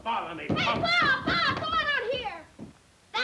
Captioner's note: door knocking